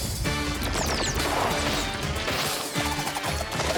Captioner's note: guns whizz and pop